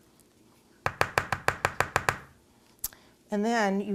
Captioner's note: tapping on pan